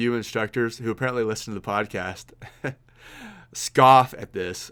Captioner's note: laughs